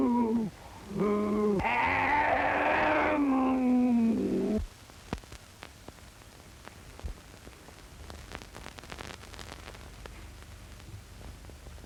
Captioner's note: animal-like roaring